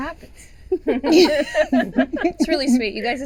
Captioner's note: chuckling